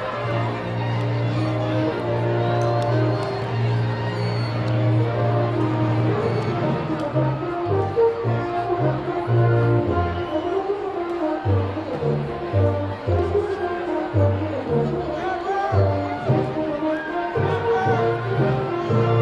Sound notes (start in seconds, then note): 1.5 cheers and applause